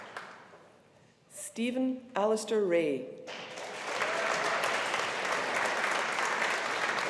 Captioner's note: audience applauding